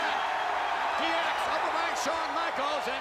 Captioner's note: crowd cheers